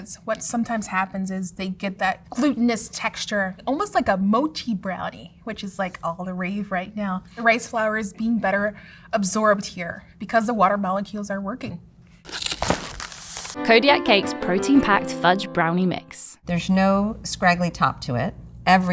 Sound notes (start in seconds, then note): 12.2 paper crinkling; 12.2 cardboard tearing